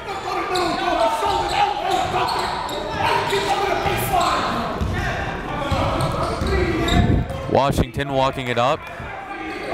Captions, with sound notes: (coach yelling) Washington walking it up.